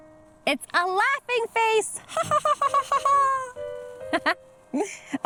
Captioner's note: laughs